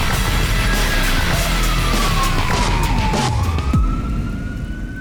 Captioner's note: police siren wailing